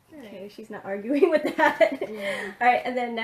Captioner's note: laughs